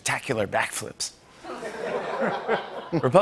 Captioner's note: laughter